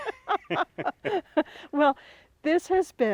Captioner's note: laugh